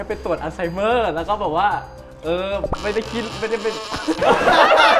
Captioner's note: stuttering